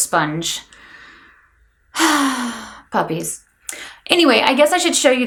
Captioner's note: sighs